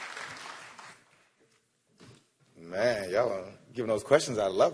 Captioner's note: applause